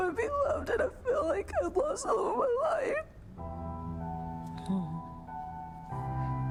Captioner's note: sobs